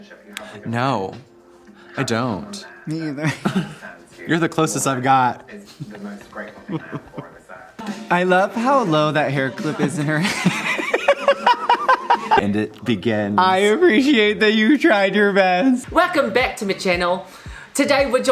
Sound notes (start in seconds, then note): 10.2 cuts herself off with a laugh; 15.9 in an attempted Australian accent